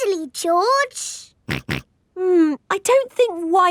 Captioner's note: snorts